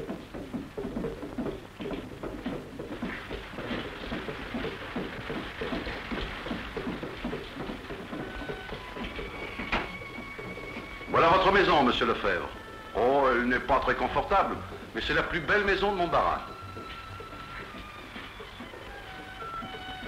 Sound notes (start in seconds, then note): 2.7 rain